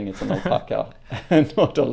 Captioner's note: laughter